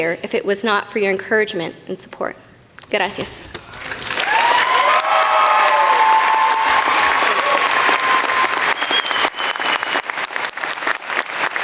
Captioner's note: applause